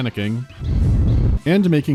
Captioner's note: bwww